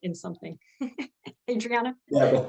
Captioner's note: chuckles